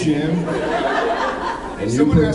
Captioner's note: laughs